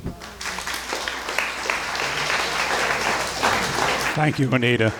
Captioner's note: crowd clapping